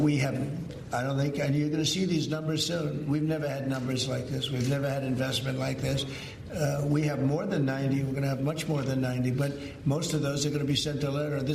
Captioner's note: Donald Trump speaking